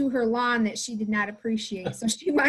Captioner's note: laughing